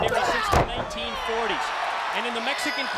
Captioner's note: audience cheers